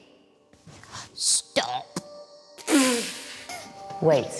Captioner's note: laughs